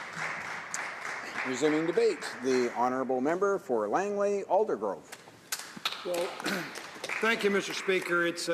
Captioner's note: applause